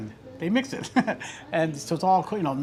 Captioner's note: laughs